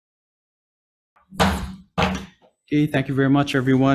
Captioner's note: gavel bangs